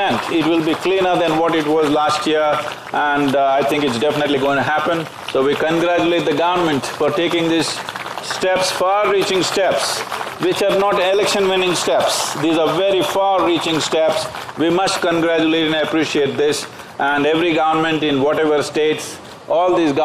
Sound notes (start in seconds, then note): 11.2 applause